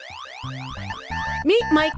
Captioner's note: sound effects